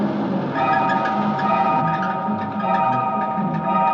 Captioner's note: rattling and squeaking continues